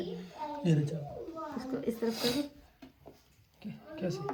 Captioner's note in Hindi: नाक से की जाने वाली आवाज़